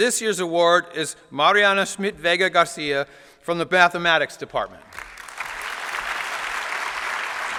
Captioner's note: applause